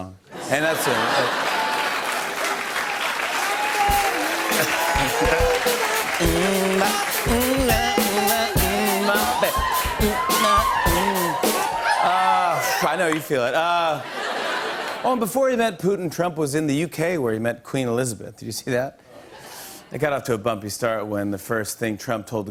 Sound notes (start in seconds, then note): 0.3 laughter and applause; 4.1 cheers and applause; 13.9 laughter